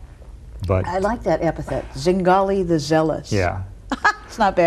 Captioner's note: laughs